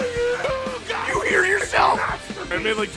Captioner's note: Harry potter screaming; screaming